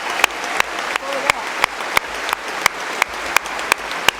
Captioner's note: applause